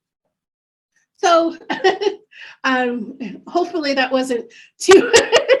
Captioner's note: chuckles